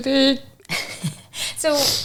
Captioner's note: chuckling